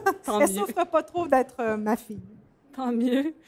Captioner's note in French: rires